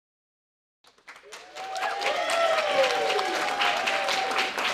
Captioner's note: cheers and applause